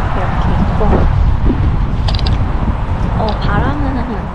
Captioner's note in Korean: 바람 소리